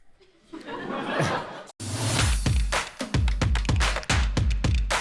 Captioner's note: audience laughter